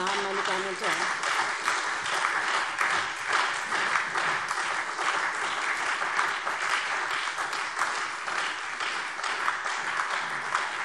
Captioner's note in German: Lebhafter Beifall SPD und Freie Demokraten